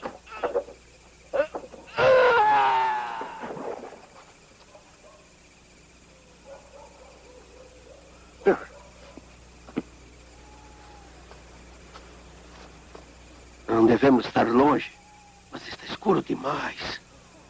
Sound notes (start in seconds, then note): 3.1 splash; 6.2 sighs, mutters